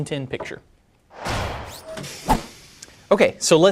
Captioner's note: swoosh